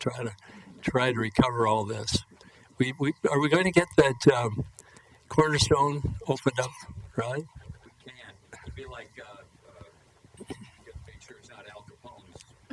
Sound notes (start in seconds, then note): 8.0 voiceover